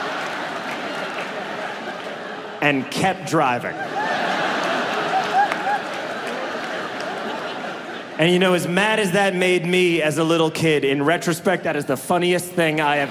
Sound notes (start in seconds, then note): 4.6 audience laughs